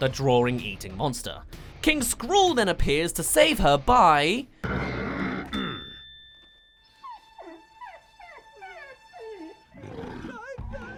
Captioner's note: sigh